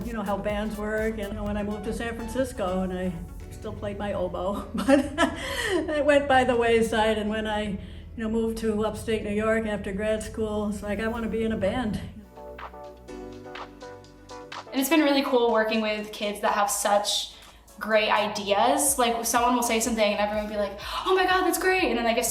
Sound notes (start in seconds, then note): 4.5 laughs